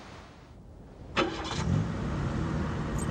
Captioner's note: engine starts